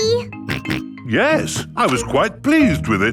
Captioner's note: snorts